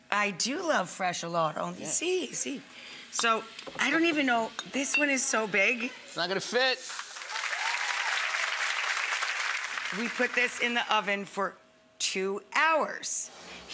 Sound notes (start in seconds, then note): 7.0 audience applauds